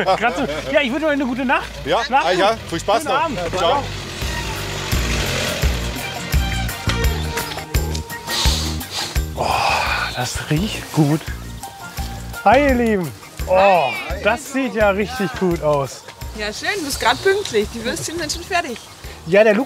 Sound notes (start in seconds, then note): 3.6 engine noise; 5.1 happy music